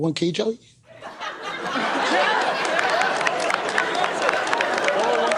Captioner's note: laughter